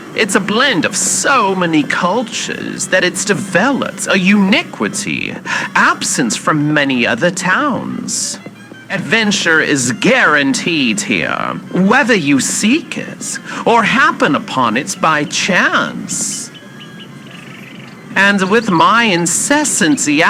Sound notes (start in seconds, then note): 16.6 birds singing as city sounds decrease fx